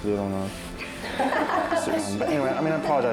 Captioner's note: daters laughing